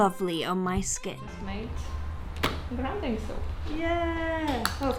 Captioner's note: hand clapping down